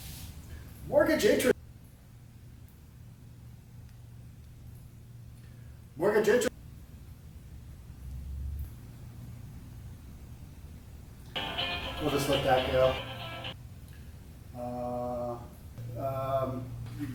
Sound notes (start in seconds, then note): 11.3 cell phone ringing